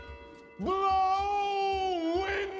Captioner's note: bells tolling